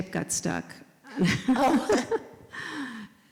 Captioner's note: laugh